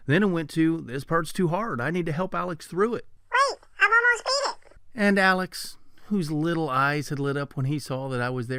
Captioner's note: man's voice